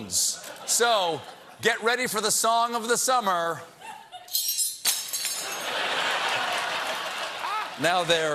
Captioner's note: laughter; spoons clattering; applause